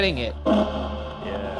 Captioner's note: device thrums